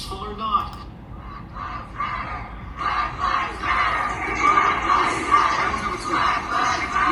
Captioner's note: "BLACK LIVES MATTER" Chanting